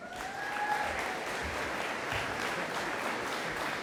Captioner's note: audience applauding